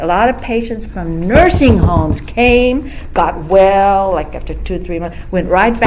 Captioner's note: knocks on table